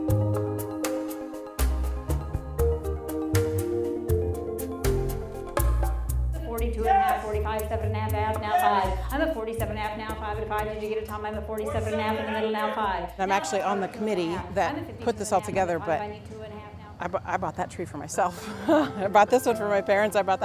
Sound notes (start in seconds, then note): 2.2 upbeat music; 6.7 auctioneering